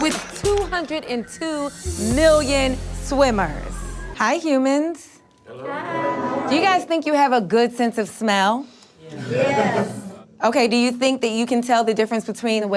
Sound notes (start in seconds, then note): 5.4 crowd; 9.0 crowd